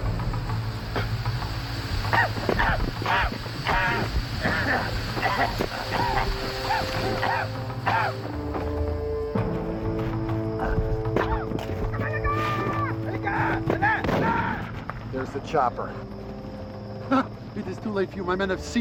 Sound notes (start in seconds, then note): 0.1 smoke hissing; 4.3 coughing; 13.5 yelling; 14.7 guns firing